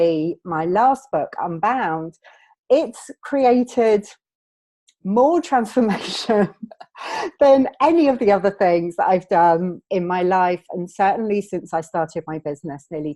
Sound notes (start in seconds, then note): 5.4 laughing